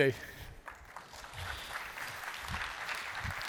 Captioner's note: applause